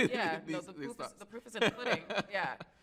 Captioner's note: laughs